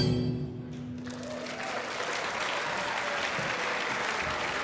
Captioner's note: audience applauding